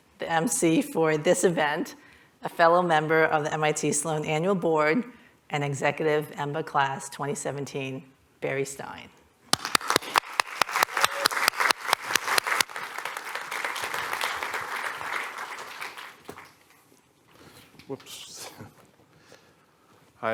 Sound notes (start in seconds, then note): 9.5 applause